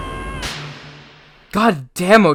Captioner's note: Izuku Screaming; slap